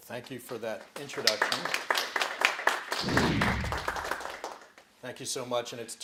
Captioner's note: applause